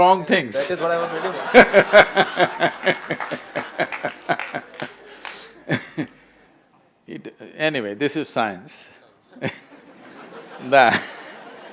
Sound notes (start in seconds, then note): 5.5 laughs; 9.4 laughter/Applause